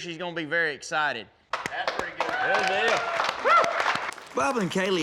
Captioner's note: cheering, clapping